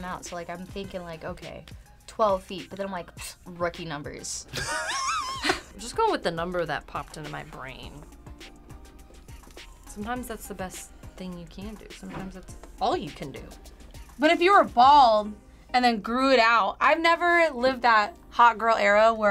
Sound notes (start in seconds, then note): 3.4 scoffs; 4.6 laughs